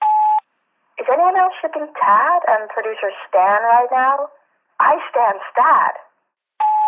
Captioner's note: sfx: beep, new message; phone message; sfx: beep, end of messages